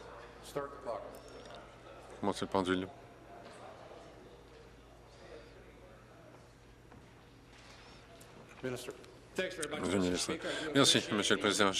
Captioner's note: conversation din